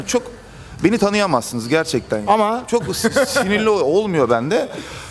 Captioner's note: laughing